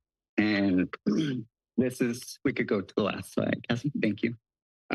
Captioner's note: clears throat